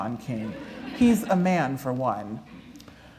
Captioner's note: laughter